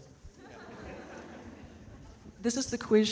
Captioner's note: audience laughing